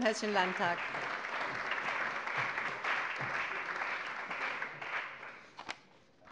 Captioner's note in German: Allgemeiner Beifall